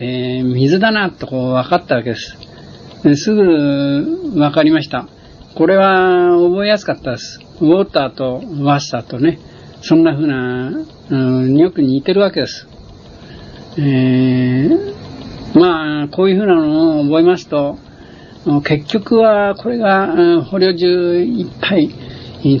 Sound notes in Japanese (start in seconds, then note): 7.9 英語; 9.8 ドイツ語